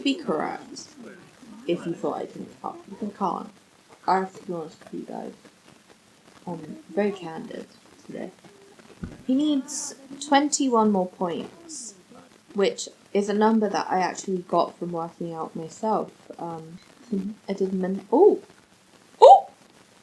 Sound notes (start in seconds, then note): 9.0 laughs